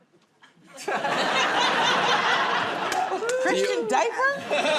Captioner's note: laughter